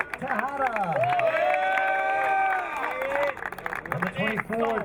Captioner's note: crowd cheering